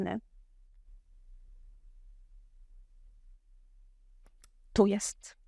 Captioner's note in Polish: cisza